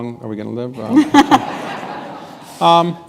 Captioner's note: laughter